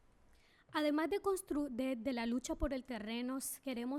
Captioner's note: speaking spanish